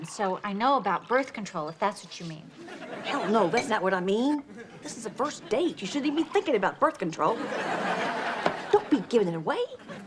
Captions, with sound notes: so I know about birth control if that's what you mean. - Hell no, that's not what I mean. This is the first date. You shouldn't even be thinking about birth control. (audience laughs) Don't be giving it away.